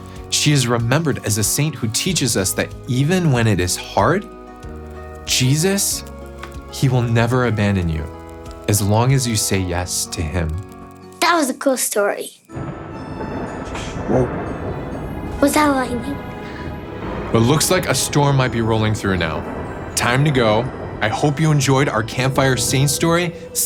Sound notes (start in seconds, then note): 12.9 thunder booming